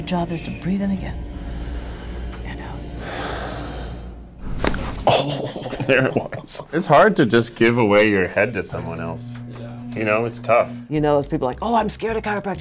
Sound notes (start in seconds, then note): 3.0 breathing; 4.5 bones cracking